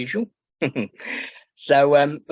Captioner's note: chuckles